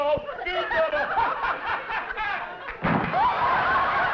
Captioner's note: laughs; laughter